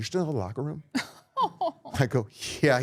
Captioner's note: laughing